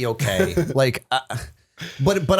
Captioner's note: chuckle